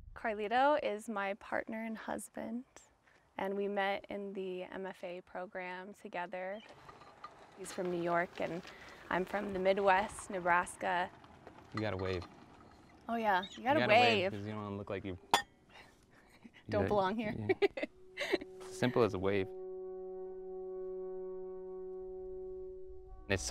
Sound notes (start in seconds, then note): 17.3 chuckles; 20.0 somber music